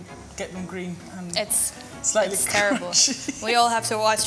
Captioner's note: laughs